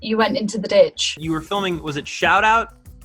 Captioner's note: stammers